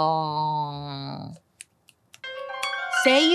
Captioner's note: clicking fingers; tense tinkling piano music